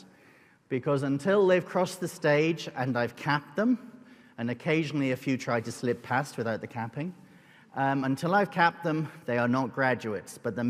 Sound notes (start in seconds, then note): none